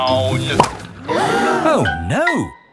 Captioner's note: all gasp